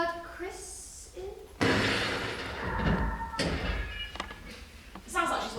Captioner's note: loud crash, followed by a scream